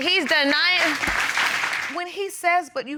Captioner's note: applause